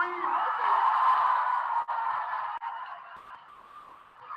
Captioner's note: audience applauding